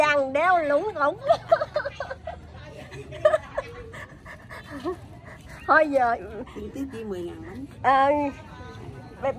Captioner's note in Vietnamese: Tiếng cười